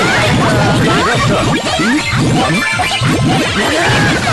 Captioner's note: can't help but laugh out loud; can't stop laughing; laughs